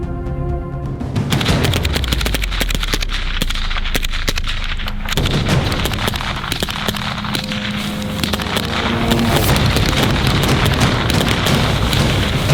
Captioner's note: shooting sounds